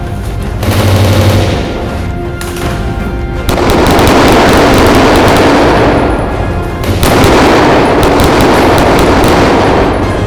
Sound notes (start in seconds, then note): none